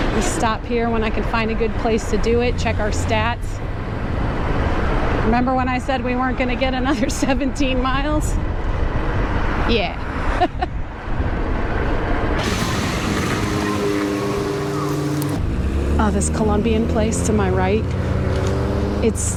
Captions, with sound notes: i'll stop here when i find a good place to do it, check our stats remember when i said we weren't going to get another seventeen miles? [chuckling] yeah [laughing] oh this columbian place to my right